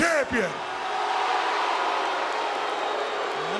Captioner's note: audience booing